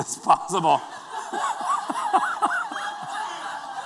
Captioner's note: laughter